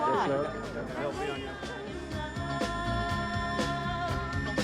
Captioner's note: feedback